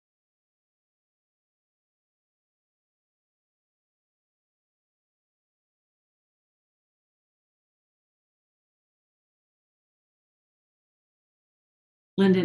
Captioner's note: silence